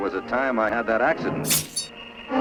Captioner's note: slicing sound